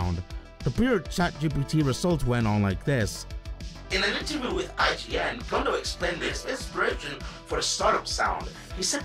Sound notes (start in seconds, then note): 3.4 ChatGPT voice